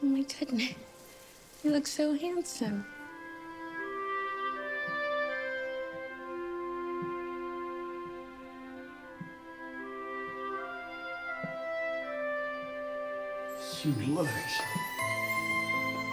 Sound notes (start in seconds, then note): 5.0 footsteps plodding; 5.0 gentle music